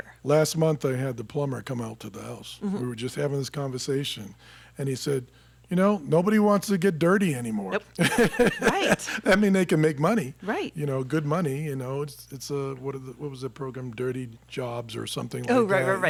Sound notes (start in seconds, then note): 8.0 laughing